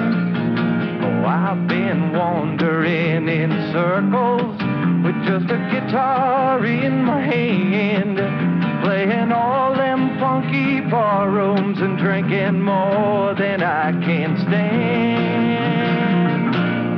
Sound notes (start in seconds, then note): none